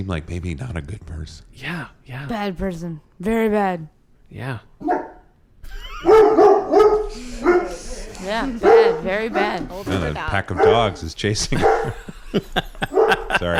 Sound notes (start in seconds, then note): 5.9 dog barks; 13.3 laughs